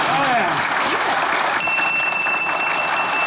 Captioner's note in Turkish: Zil sesi